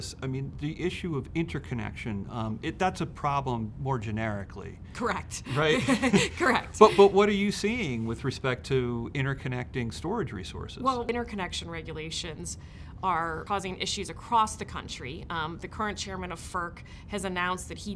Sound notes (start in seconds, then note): 5.4 laughs